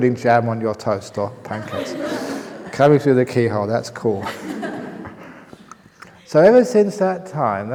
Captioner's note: laughter; laughter